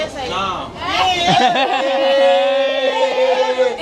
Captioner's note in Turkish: kahkaha